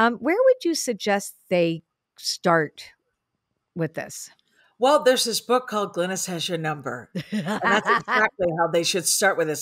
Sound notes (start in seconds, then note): 7.2 laughs